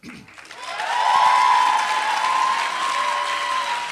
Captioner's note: applause